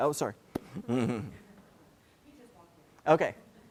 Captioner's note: laugh